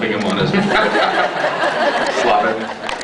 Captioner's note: laughs